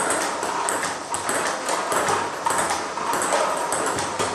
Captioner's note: ball ping pong hitting continues